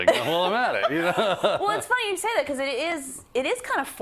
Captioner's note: laugh